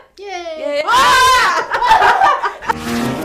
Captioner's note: shouting; laughter